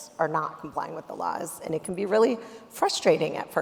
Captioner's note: none